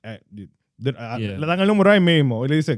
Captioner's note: speaking In Foreign Language